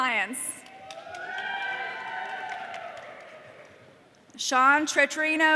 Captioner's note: audience cheering